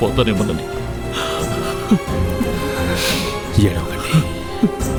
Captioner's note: crying